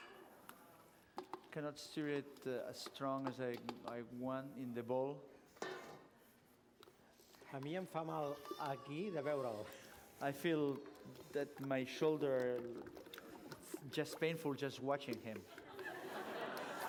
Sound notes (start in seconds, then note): 8.6 non-english speech; 15.5 laughter